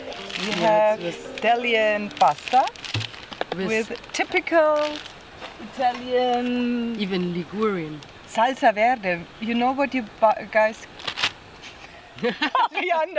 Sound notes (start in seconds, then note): 11.8 laughter